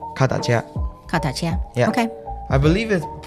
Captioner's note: Taiwanese